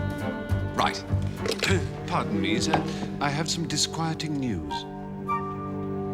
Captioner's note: coughs